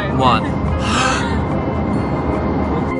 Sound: holds breath

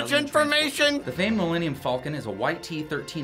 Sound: voice-over

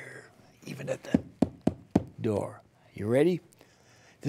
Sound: knocking

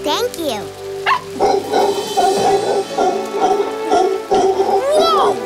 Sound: howler monkey howls

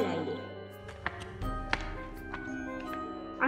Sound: steps

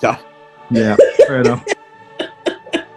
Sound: laughter

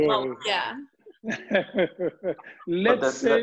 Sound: laughs

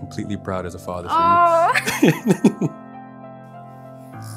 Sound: both laughing; gentle music

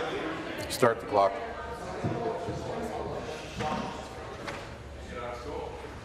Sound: conversation din

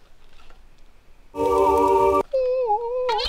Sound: holy sound effect; singing angelically

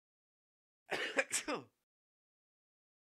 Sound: sneeze

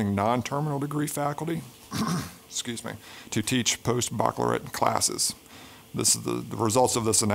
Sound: cough

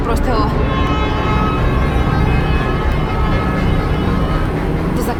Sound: train horn grows louder

